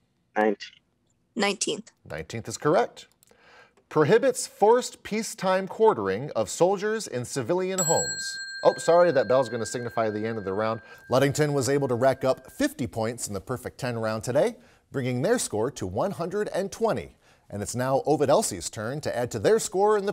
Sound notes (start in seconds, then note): 7.8 ding